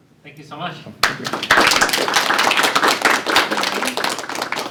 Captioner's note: applause